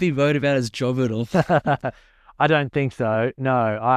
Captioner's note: laughs